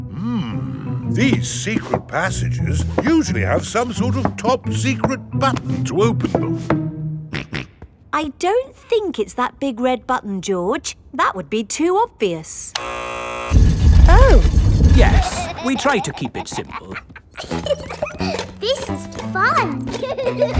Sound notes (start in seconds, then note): 7.2 snorts; 12.7 buzzer sounds; 17.5 giggles